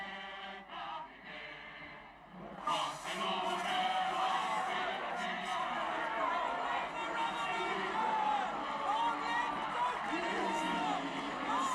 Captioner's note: applause